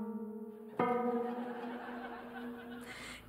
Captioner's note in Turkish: Gülme efekti